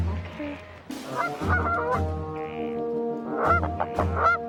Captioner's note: geese quack